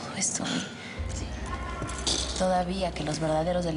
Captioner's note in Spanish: Susurra